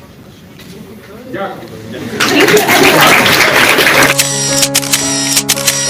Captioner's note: applause